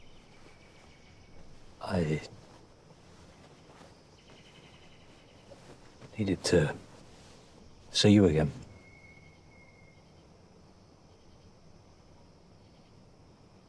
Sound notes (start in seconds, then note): none